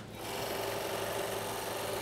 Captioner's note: engine rattling